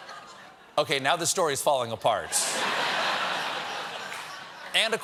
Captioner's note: laughter